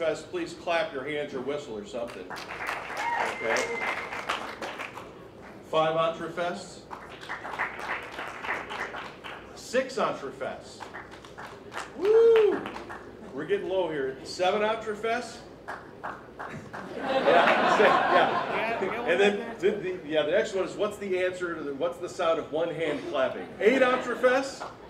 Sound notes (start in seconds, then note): 2.2 applause; 6.8 applause; 10.9 applause; 15.6 applause; 16.8 laughing; 24.6 applause